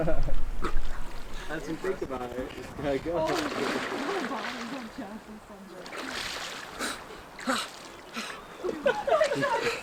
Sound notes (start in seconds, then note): 3.1 splashing